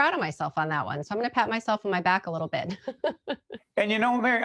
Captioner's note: laughing